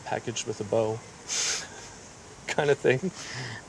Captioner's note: laughing